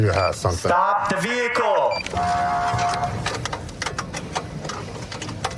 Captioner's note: horn blaring